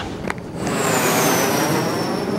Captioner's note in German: Flugzeuggeräusche